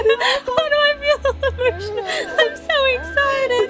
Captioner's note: excited laughing